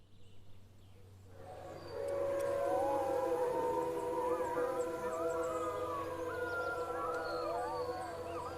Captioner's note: wolves howling